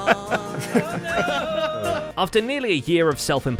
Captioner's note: everyone laughing